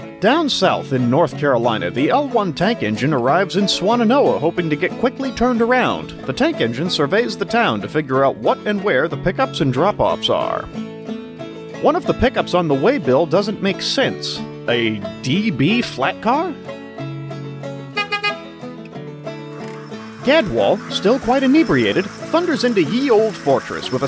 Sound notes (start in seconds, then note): 17.9 honk honk